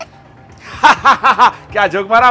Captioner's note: Hahahaha